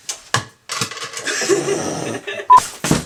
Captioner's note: laugh